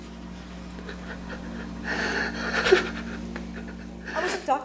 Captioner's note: heavy crying